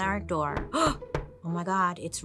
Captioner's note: door knocking; gasps